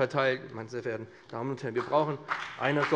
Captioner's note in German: Beifall BÜNDNIS 90/DIE GRÜNEN und CDU